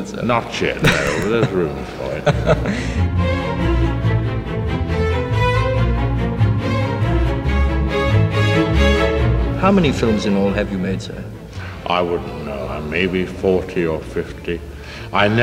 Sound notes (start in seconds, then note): 2.4 laughing; 3.7 suspenseful orchestral music